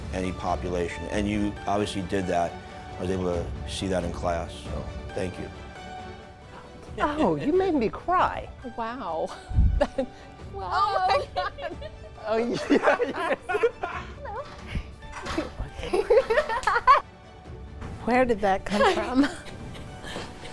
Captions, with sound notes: population, and you obviously did that. I was able to see that in class, so thank you. Oh, you made me cry. Wow. Oh my. [Laughing] Hello! Where did that come from?